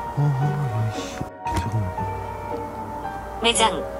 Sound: ghost tube warning sound

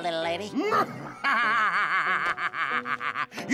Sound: evil laughter

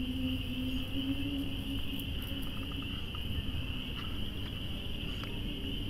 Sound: wind blowing, insects chirping

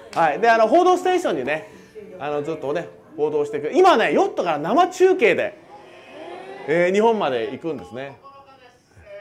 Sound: TV news

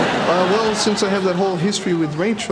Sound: audience laughing

